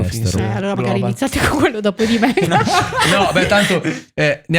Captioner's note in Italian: laughter